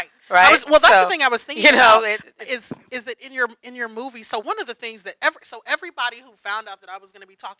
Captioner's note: laughing